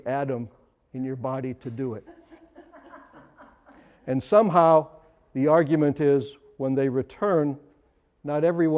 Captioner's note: laughter